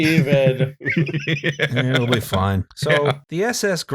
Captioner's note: laughter